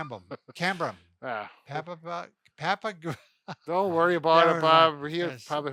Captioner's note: laughs